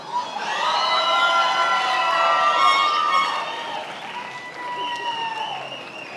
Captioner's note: attendees applauding and cheering